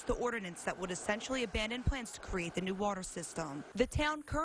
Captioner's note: sound of faucet